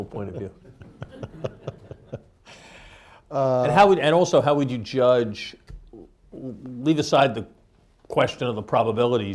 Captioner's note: laughter